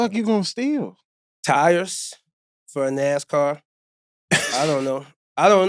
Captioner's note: laughing